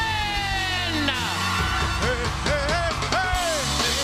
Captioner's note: cheers and applause